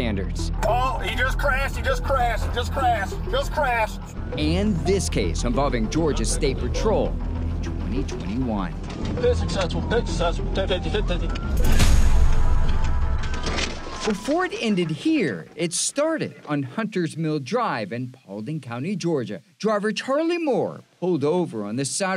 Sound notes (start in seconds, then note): 8.9 sirens blaring; 12.3 dramatic music